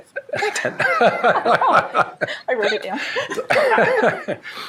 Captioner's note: shared laughing